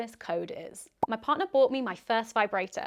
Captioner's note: popping